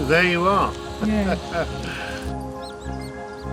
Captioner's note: laughter